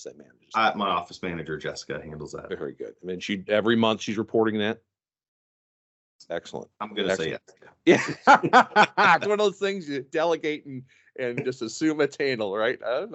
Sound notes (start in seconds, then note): 7.8 laugh